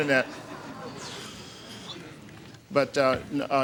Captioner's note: audience chuckling